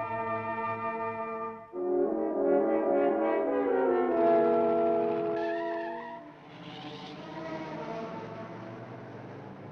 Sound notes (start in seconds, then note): 5.1 tires screech